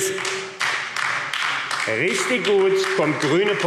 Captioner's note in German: Beifall AfD